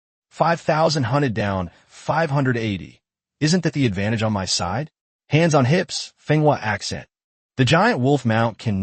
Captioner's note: Hands on hips, Fenghua accent